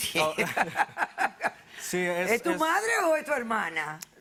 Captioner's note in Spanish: Risas